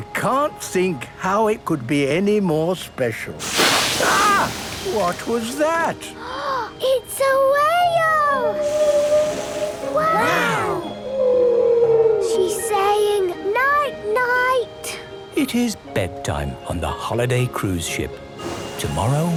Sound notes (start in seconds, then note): 6.7 gasps; 8.4 whale calling